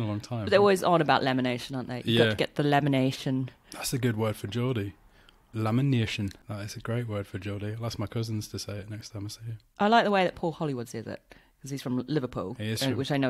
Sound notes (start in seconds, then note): 4.8 geordie accent